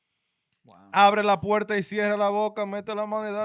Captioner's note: speaking In Foreign Language